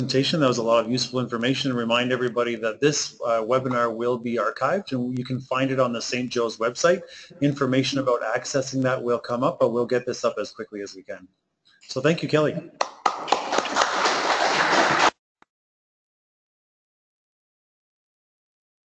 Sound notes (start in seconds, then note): 12.8 applause